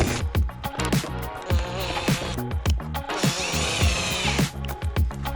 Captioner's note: drill whirring